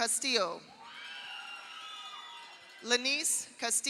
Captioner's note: audience cheers; audience applauds